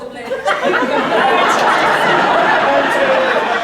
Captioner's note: laughter